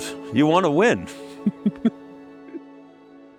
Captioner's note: laughing